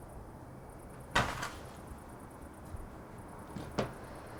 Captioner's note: door clatters